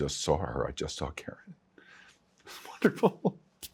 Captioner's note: laughs